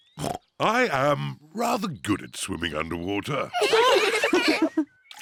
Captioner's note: oinks; all laugh